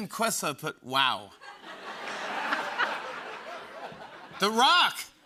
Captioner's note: laughter